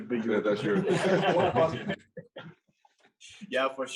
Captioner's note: all laugh